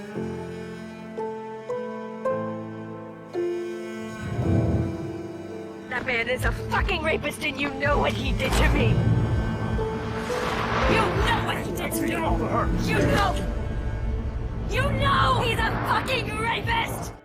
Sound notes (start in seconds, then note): 6.1 voiceover; 12.9 shouting; 15.4 shouting